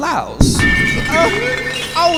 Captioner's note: glass shattering